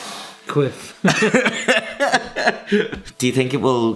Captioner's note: laughter